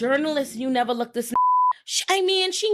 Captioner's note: beep